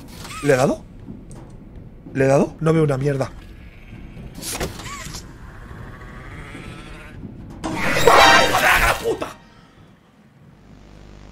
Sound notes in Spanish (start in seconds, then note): 5.5 Gruñido; 8.0 grita